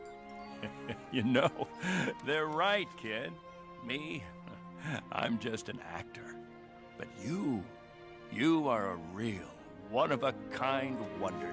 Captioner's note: Thunderbolt chuckles as he speaks to Patch; Patch chuckles cutely